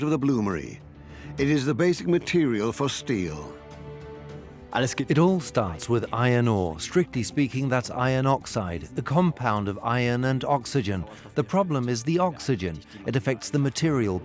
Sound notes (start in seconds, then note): 3.4 in German; 5.0 dubbed in English